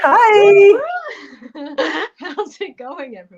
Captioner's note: laughter